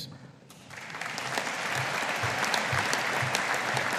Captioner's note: audience applauding